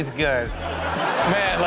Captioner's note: audience laughs